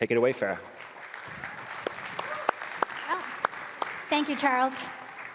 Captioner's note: applause